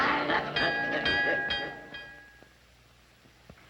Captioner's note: bell rings